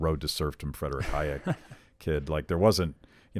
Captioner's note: laughs